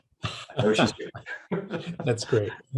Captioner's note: both laughing